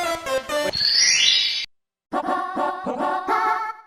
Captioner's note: Super mario 64 sounds